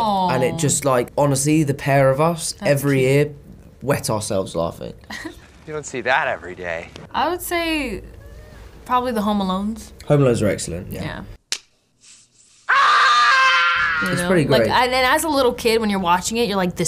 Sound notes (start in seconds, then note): 11.4 slap; 12.6 screaming